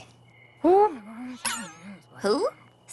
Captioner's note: poink!